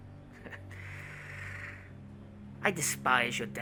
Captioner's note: Khalil laughs